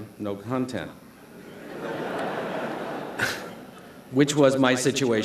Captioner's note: laughter